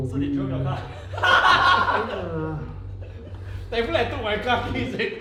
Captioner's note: all the bosses laughs